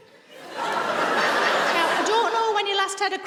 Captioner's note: audience laughs